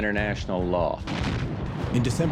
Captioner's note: explosion